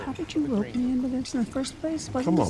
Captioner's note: host speaks faintly